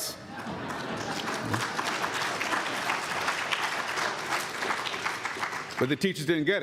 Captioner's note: applause